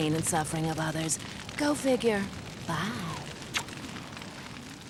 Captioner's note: blows kiss